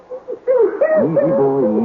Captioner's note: baby crying